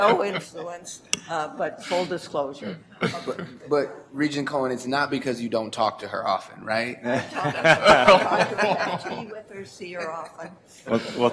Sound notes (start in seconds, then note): 7.0 laughter